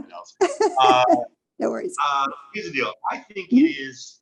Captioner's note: laughs